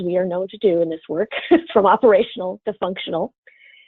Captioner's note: laughs